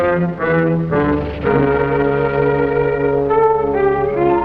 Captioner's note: dramatic music; serpent hisses and rattles; dramatic music